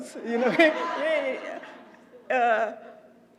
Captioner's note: laugh